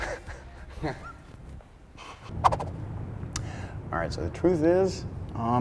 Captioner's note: laughs